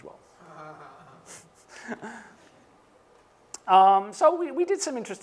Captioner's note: chuckling